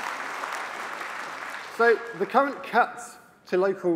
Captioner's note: applause